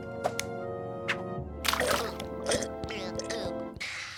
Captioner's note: gulping; sighing